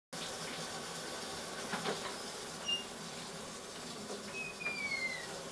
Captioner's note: running water splashes